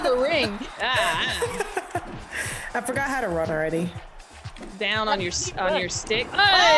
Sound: laugh

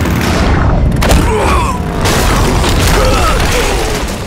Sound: groaning

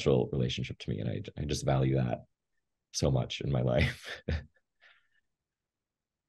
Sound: laughs

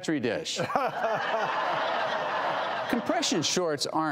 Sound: laughing

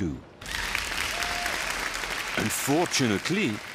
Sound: applause

